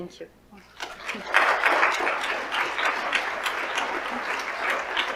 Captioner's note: audience applauds